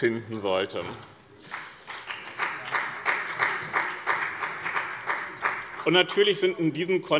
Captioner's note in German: Beifall bei dem BÜNDNIS 90/DIE GRÜNEN und der CDU